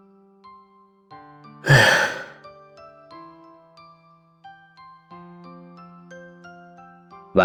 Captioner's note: sigh